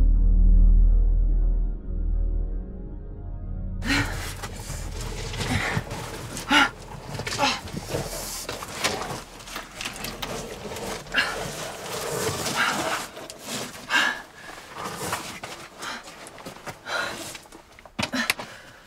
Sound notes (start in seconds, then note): 3.8 gasps; 9.8 grunting